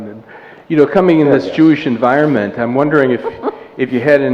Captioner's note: laughter